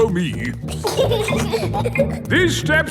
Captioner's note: giggling